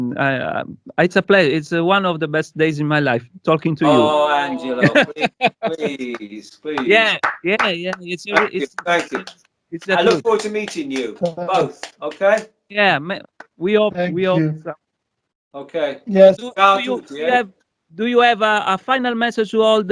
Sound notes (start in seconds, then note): 5.1 talking in italian